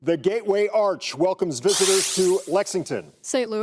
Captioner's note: buzzer